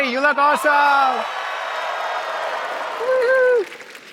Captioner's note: cheering